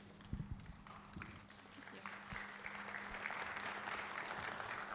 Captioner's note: applause